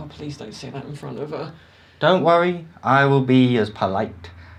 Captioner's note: slurred